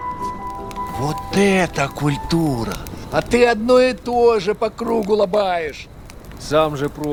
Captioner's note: speaking russian